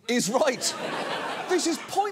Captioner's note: audience laughs